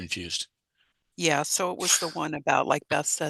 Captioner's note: laughs